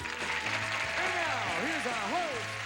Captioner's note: audience applauding